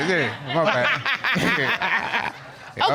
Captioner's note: laughs